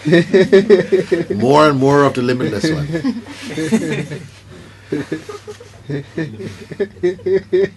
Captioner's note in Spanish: risas; risas